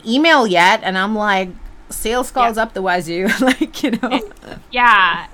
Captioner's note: laughs